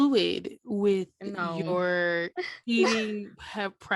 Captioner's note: giggle